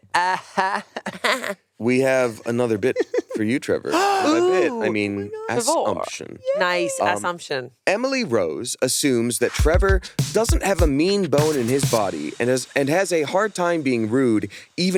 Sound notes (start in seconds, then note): 0.0 fake laughs; 3.9 gasps